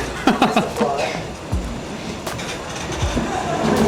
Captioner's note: laughing